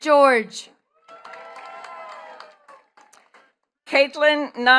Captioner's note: attendees cheering and clapping